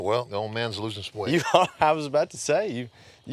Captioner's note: chuckling